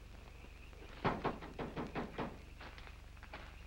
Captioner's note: knocks